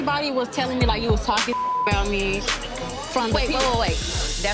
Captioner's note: beep